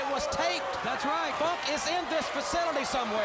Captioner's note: crowd cheering